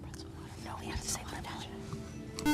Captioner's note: buzzer